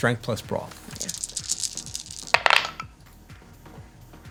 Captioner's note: clatter